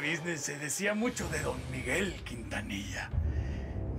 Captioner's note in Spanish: none